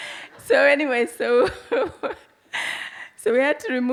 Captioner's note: audience laughs; laughs